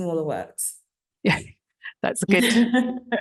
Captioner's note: both chuckling